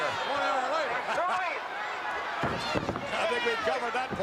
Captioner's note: Vince laughs